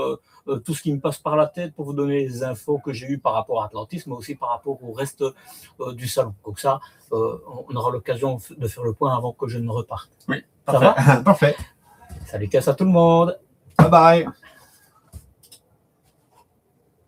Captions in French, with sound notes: tout ce qui me passe par la tête pour vous donner les infos que j'ai eu par rapport à Atlantisme mais aussi par rapport au reste du salon. Donc ça on aura l'occasion de faire le point avant que je ne reparte. Oui parfait. [rires] Salut Cass tout le monde.